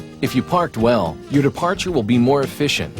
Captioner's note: voiceover